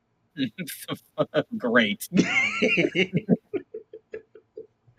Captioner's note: laughs